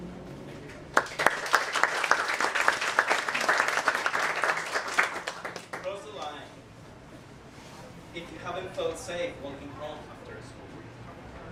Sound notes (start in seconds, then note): 0.6 applause